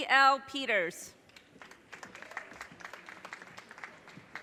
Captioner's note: audience cheers and applause